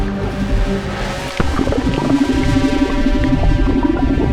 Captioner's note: harrowing music; water gurgling